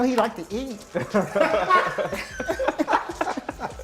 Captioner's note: laughter